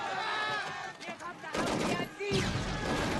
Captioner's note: german soldiers shouting